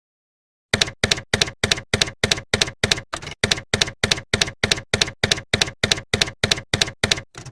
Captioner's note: typewriter keys clacking